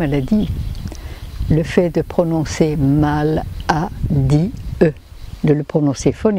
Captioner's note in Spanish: en francés